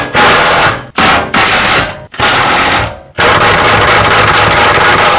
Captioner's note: drill whirring